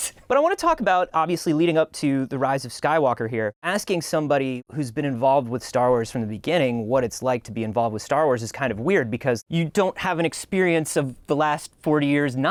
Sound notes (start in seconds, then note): none